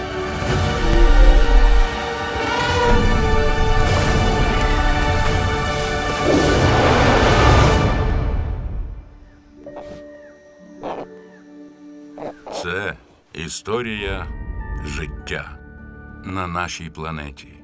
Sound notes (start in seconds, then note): 2.4 trumpeting; 6.5 roars; 7.7 music fades to silence; 9.5 baby grunting softly; 9.5 gentle music playing